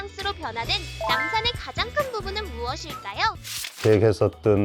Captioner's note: emphasizing sound effect; cheerful music